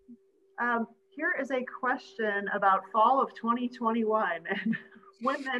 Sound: chuckles

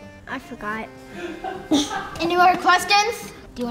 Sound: host laughing

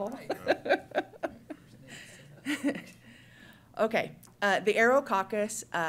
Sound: laughs

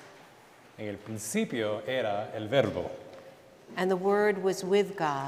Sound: speaking in Spanish

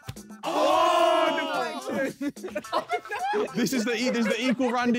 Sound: men groaning

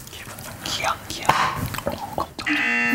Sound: thumps

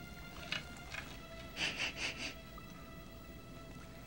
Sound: sniffs

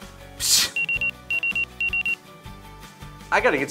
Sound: sounds of a beeper

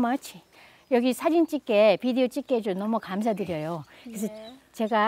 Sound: speaking foreign language

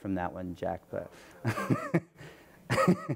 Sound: laughs

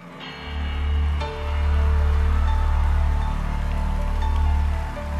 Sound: crowd cheering

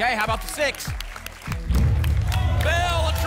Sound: rumbling sounds

